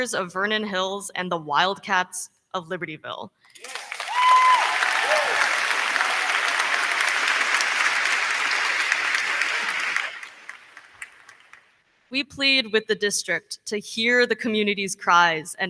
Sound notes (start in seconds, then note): 3.5 crowd clapping; 3.5 crowd cheering